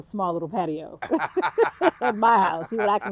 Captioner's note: both laughing